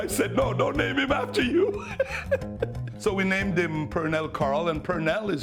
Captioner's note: laughs